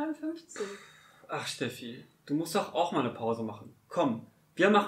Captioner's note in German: seufzt